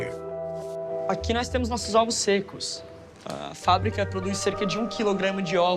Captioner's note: speaks in foreign language